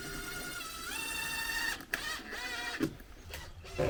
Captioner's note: drill whirring